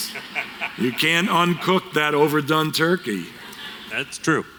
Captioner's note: laughter